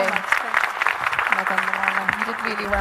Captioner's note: audience applauding